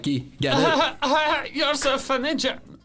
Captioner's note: laughs scornfully